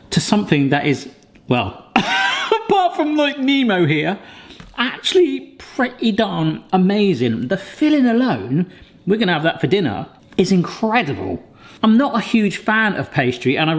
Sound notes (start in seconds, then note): 2.0 laughs